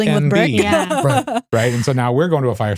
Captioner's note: laughing